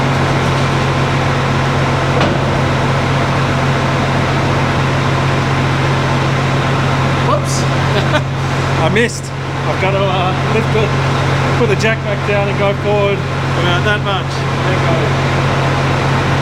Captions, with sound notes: (engine revving) Whoops, I missed. I've got to put the jack back down and go forward. We're going that much.